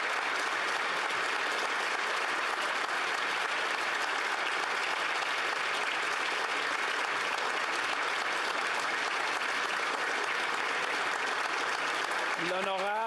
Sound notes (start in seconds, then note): 1.6 applause